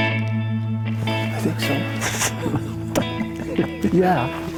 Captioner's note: laughs